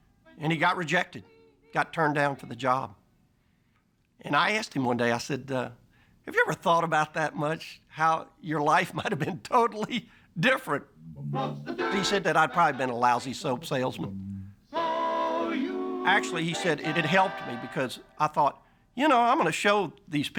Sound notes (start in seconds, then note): 7.7 laughing